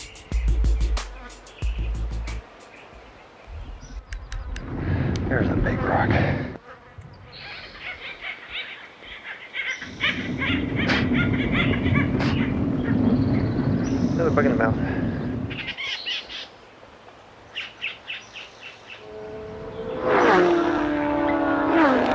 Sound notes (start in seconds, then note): 0.0 crickets, birds and fly sounds; 8.3 bird sounds; 16.5 bird sounds; 18.9 motorcycles racing